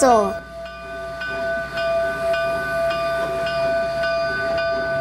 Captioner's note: crossing bells dinging